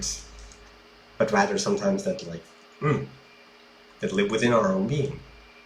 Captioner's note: grunt